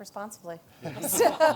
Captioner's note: laughter